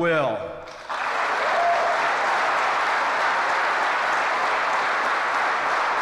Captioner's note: applause